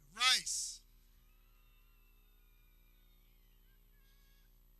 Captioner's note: people cheering